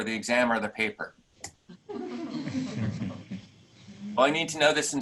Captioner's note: laughing